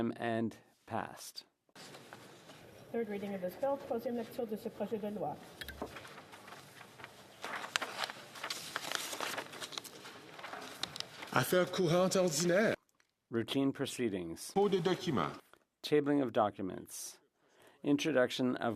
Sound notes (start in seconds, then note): 13.3 speaking French